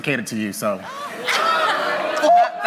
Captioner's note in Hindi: हंसी